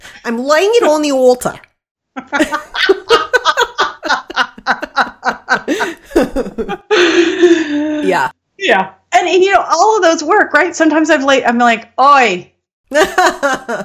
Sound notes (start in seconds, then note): 2.2 laughing